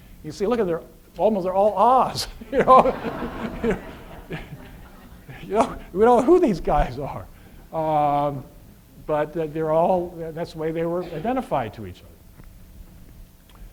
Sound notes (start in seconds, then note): 2.1 laughs